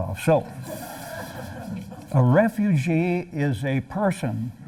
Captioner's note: laughter